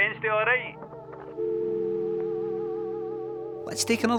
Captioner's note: phone goes dead